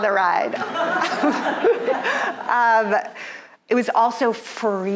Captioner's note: audience laughing